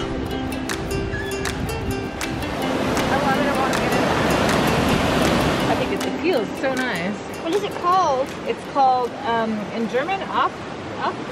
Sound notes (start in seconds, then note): 0.5 happy music; 2.7 water rushing; 9.7 speaking in foreign language